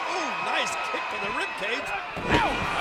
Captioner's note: blow thudding; blow thudding